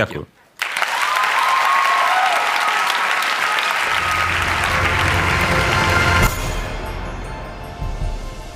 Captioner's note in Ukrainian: Аплодисменты